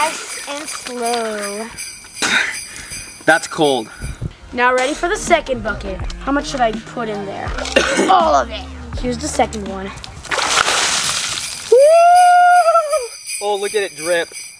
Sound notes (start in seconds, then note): 10.2 splash; 10.8 bells jingling